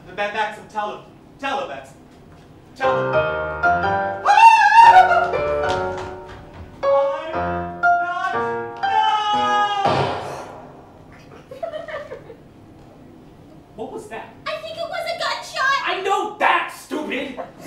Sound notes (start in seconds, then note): 4.2 Mr. Hughes Screams; 9.8 gunshot